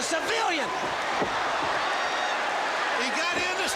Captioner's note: crowd cheering